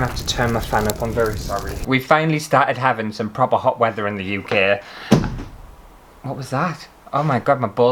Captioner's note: bang!